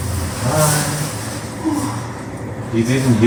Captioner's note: groan